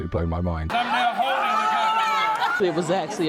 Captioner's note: audience claps and cheers